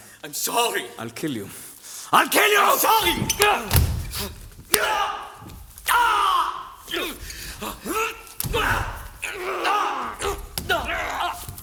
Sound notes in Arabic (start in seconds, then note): 3.6 همهمات. أصوات القتال